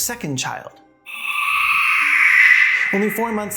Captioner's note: dry Gay Canadian Screeching